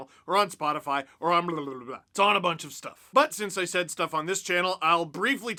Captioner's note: mouth noises